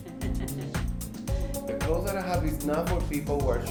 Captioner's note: woman laughs